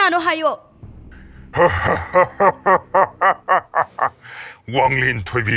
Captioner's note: laughing